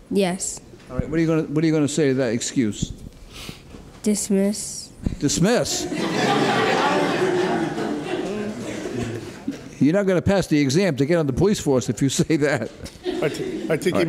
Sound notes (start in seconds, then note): 5.8 loud laughter